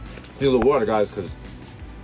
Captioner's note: pops